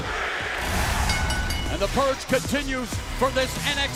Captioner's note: bell ringing